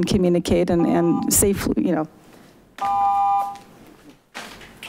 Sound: buzzer beeps

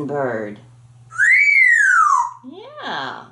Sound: whistling

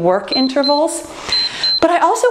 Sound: timer beeps

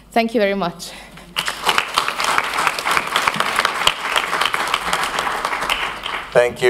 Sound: applause

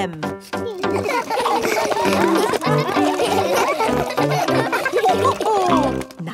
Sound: all laugh

